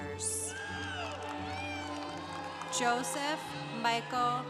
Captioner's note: congregation applauding